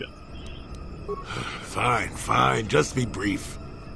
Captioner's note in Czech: Povzdech